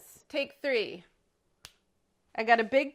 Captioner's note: finger click